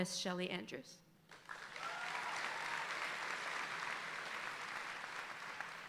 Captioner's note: audience applauding